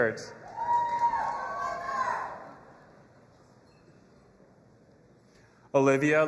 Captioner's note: audience applauding and cheering